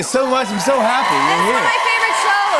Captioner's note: cheers and applause